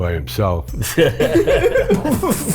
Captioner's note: group laughs